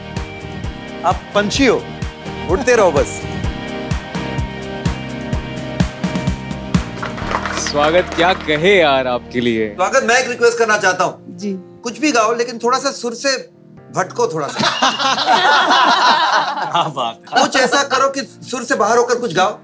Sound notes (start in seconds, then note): 14.5 all laughing